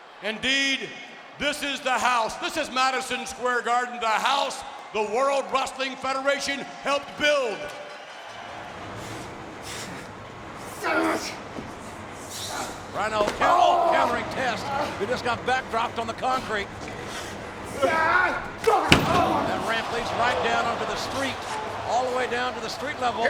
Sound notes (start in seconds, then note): 10.6 wrestlers grunting; 18.8 wrestlers grunting